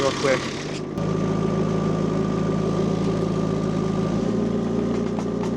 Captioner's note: tractor rumbling